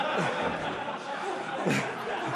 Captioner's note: laughter